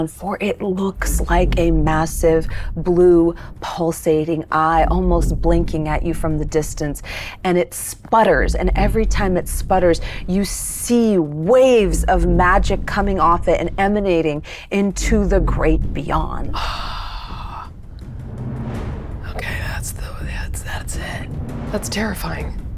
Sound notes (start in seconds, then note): 16.6 gasps